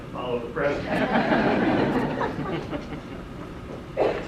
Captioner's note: audience laughter